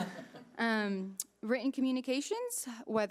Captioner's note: audience laughing